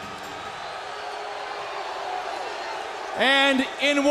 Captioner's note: crowd cheering